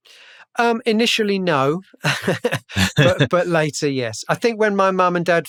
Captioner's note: laughter